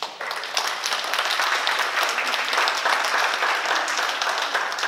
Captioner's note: oklaski